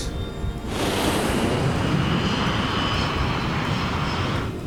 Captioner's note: jet whooshing